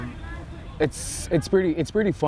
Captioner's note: players shouting